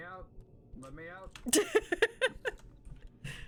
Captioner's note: laughs